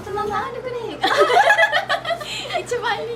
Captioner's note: laughs